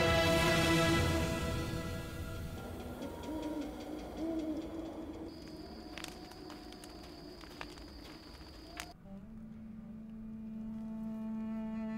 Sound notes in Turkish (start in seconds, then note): 5.3 Ayak sesi; 10.4 Müzik - Hüzünlü